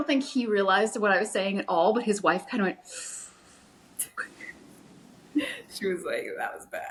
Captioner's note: sharp inhale